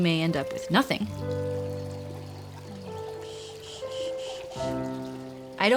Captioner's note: bird singing, water trickling, shushing